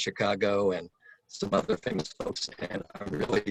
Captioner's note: electronic interference